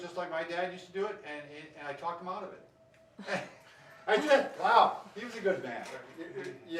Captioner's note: laughs